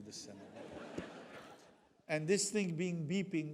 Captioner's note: audience laughs